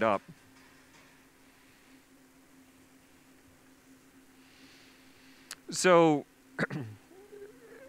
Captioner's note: pause; clears throat